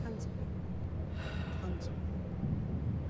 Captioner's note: sighing